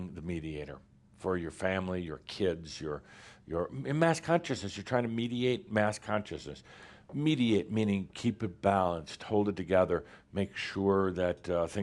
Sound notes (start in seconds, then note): none